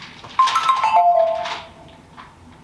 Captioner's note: notification sound